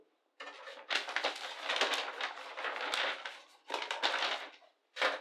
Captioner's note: page shuffling